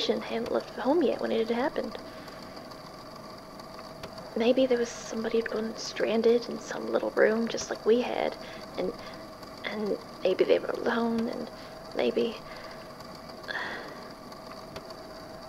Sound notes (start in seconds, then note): 13.4 sighs